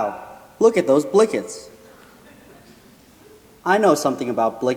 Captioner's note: laughing